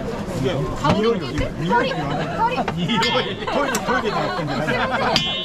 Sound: laughs

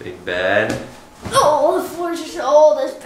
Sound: groans

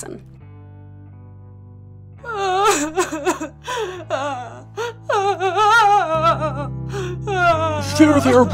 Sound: Jackson crying

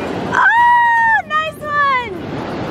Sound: cheers

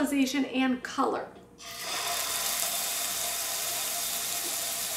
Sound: sizzling

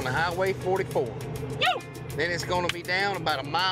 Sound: claps

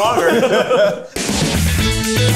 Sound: all laugh; bright guitar transition

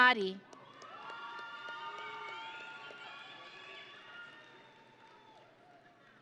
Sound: audience and graduates cheering

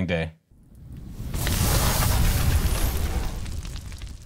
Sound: flame whirs; fire crackles

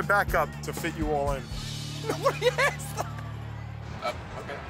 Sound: laughter

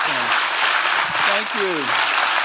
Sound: audience applauding

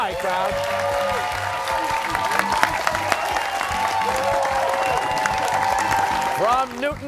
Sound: cheers and applause

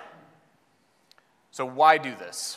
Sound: audience member coughs

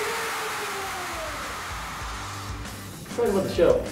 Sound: crowd cheering

